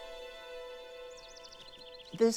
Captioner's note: birds singing